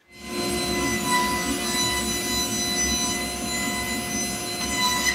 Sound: machine whirring

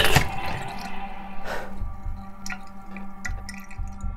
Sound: sink drains

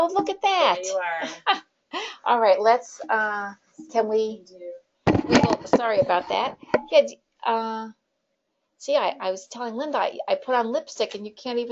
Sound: laughing

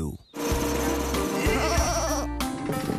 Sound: bleating

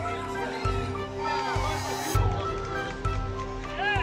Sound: cheering and applause

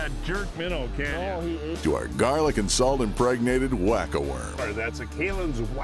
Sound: voiceover

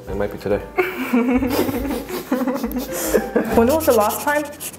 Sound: laughing

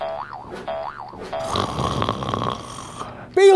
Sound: boing, boing; snoring

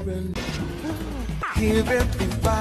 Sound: gasps

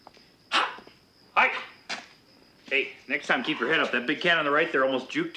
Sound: laughs

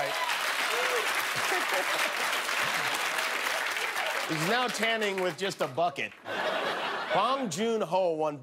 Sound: cheers and applause; laughter

